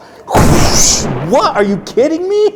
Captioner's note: bomb explosion